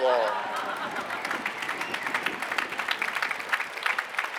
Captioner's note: applause